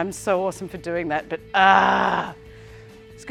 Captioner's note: painful groan